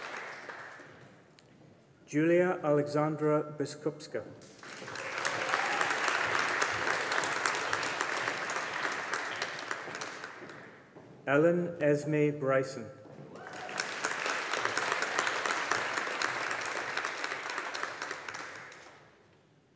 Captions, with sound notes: Julia Alexandra Biskupska. (AUDIENCE APPLAUDING) Ellen Esme Bryson. (AUDIENCE APPLAUDING)